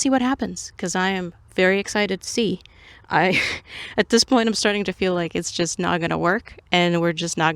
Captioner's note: laughs